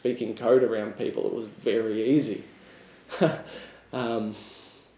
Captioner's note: chuckles